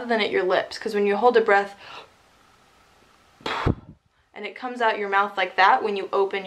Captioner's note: inhales and exhales